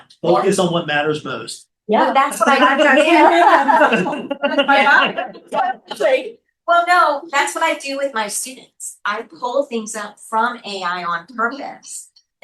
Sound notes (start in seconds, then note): 5.4 laughing